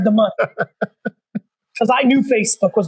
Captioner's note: laughs